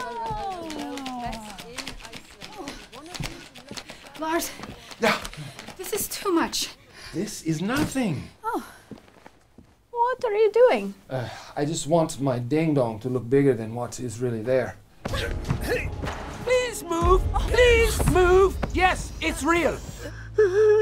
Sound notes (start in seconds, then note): 15.7 grunting; 19.9 sobbing